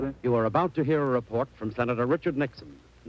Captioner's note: voiceover